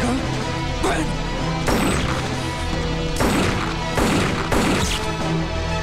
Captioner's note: Gunshot